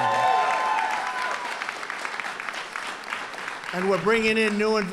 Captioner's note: applause